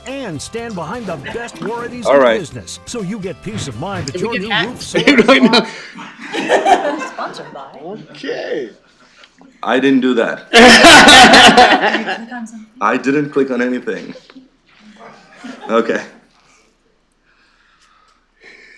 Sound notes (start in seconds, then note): 4.9 laughter; 10.5 laughter